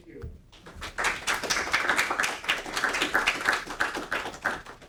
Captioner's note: audience applauding